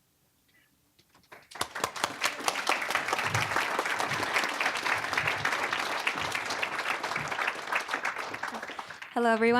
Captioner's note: applause